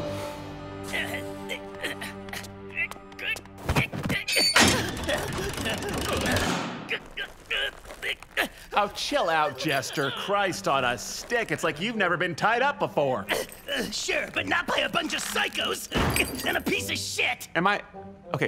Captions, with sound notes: [Fizz struggling] Oh chill out, jester Christ on a stick, it's like you've never been tied up before Ugh, sure by not by a buncha psychos Ack! And a piece of shit! Am I?